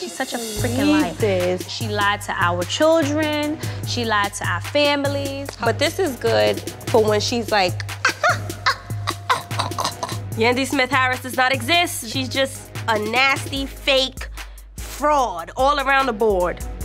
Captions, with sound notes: She's such a freakin' liar. - I can't believe this. - She lied to our children. She lied to our families. - But this is good for when she's like, (chuckles). Yandy Smith-Harris does not exist. She's just a nasty fake fraud all around the board.